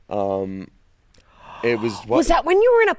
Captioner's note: gasps